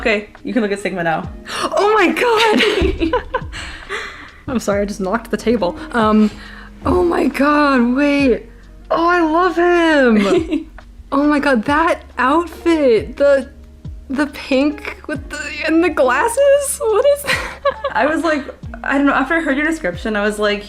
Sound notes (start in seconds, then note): 2.2 laughs